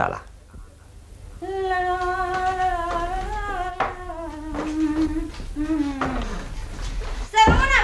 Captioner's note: the woman hums through the room